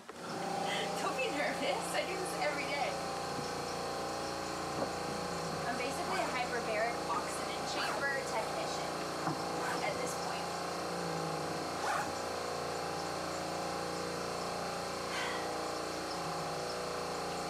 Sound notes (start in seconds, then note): 15.1 sighs